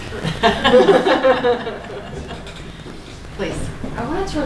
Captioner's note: laughing